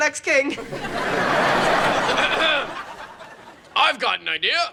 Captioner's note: audience laughing